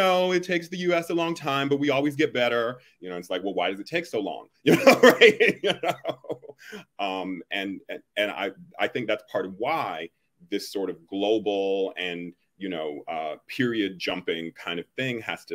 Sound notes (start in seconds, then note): 4.6 laughs